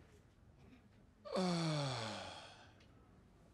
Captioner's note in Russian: тяжело вздыхает